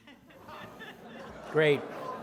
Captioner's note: audience laughing